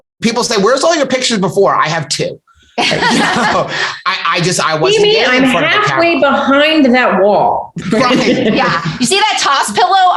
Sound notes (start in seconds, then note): 2.7 laughter